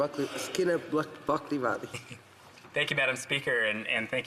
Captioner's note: none